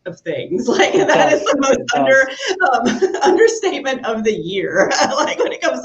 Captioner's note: laughs